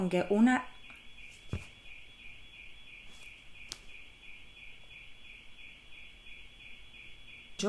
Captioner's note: siren blasts in the background